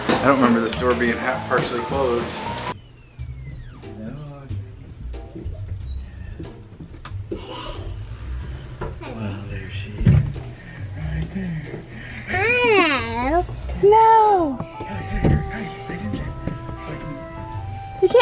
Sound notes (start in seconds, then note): 2.6 door creaks